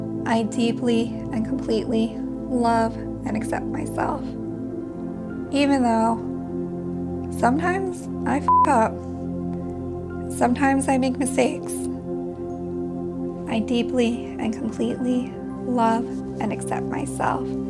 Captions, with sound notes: I deeply and completely love and accept myself. Even though sometimes I (beep) up, sometimes I make mistakes, I deeply and completely love and accept myself.